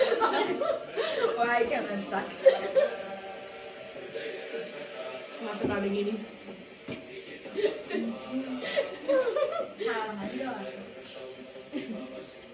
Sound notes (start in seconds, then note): 8.5 whispering; 11.7 laughing